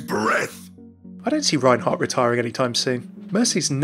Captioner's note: voiceover